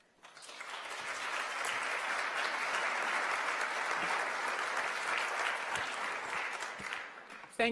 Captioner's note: applause